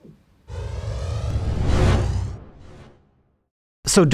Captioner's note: air whooshing